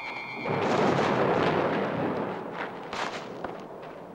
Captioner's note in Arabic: موسيقى مشوقة; هدير الرعد